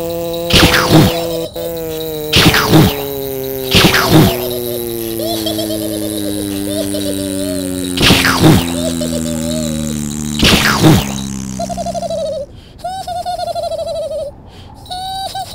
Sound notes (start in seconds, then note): 0.3 explosion; 0.4 vw motor; 1.2 giggling; 2.1 explosion; 3.1 vw motor; 3.6 explosion; 4.2 giggling; 7.9 explosion; 8.2 giggling; 10.3 explosion; 12.8 Smelf giggles; 14.9 Smelf giggles and bells jingle